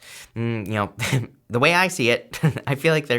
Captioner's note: chuckles